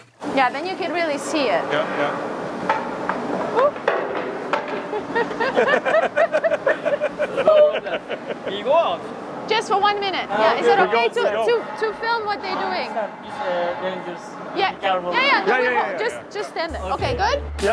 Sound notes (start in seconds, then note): 3.6 exclaiming in surprise; 3.6 metal clanging; 4.7 people laughing